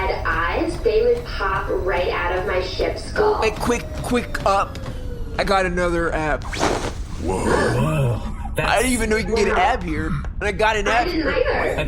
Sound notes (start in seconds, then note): 4.9 treadmill noises cease